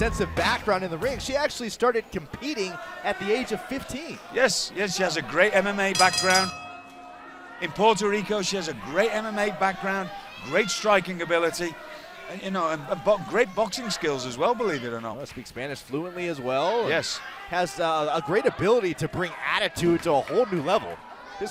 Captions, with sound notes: RING. SHE ACTUALLY STARTED COMPETING AT THE AGE OF 15. >> YES, YES. SHE HAS A GREAT MMA BACKGROUND. >> [BELL RINGING] >> IN PUERTO RICO SHE HAS A GREAT MMA BACKGROUND, GREAT STRIKING ABILITY, AND, YOU KNOW, ABOVE--GREAT BOXING SKILLS AS WELL, BELIEVE IT OR NOT. >> WELL, SPEAKS SPANISH FLUENTLY AS WELL. >> YES. >> HAS A GREAT ABILITY TO BRING